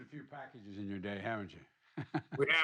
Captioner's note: laughs